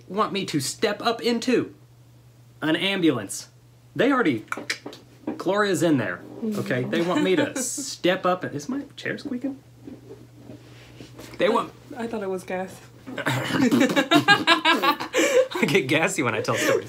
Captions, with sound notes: want me to step up into an ambulance, they already, Gloria's in there. They want me to step up and, is my chair squeakin'? They want-- - I thought it was gas. (laughter) - I get gassy when I talk.